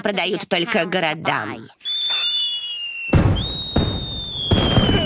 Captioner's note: firireworks e explodingng; Peteter disistantly l laugh